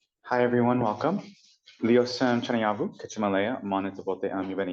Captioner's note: non-english speech